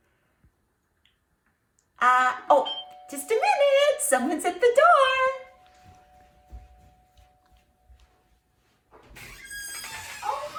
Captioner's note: doorbell rings